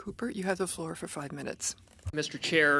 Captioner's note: speaking French